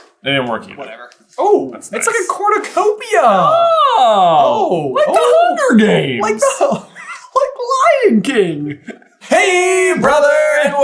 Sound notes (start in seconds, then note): 7.0 laughs